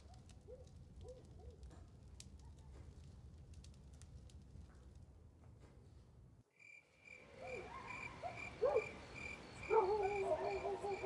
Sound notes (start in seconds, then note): 6.6 insects chirping; 9.6 dogs barking